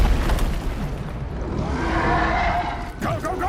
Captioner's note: roaring